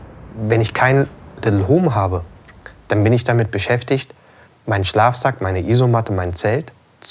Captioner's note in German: männliche Stimme